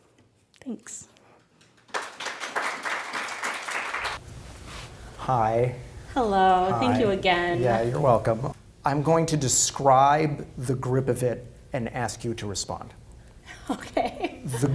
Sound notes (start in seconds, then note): 1.7 clapping; 13.7 laughs